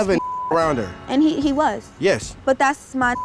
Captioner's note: beep; beep